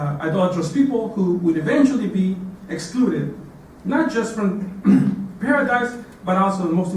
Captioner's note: cough